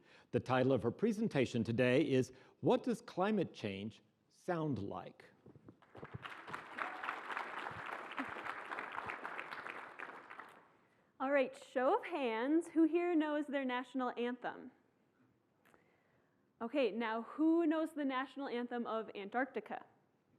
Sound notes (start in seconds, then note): 5.8 applause